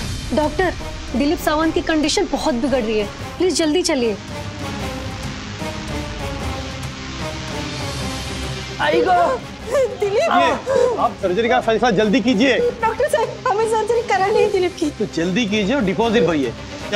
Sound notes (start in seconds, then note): 4.5 intense music; 9.6 Asha sobbing